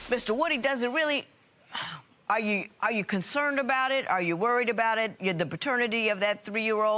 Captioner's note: sighs